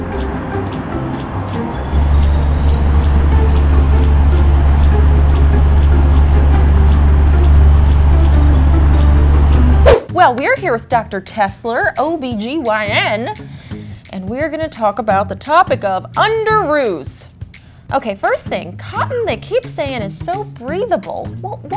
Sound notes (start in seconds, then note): 0.0 birds tweeting; 0.7 fan humming; 9.5 swooshing